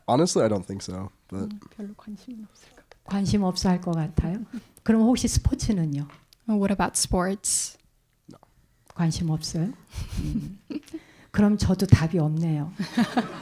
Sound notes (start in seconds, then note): 2.7 translator speaking in Korean; 3.8 speaking in Korean; 9.9 speaking in Korean